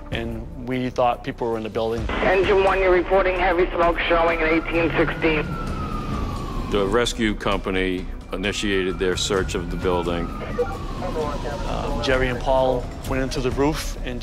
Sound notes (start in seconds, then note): 6.4 sirens; 10.5 radio chatter